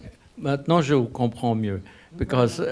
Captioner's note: speaking a foreign language